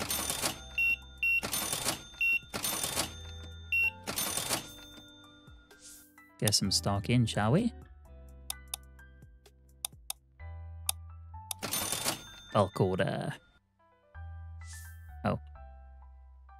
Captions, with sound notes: (beeping) Get some stock in, shall we? I'll call the... Oh.